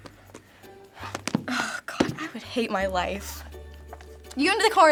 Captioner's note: sighs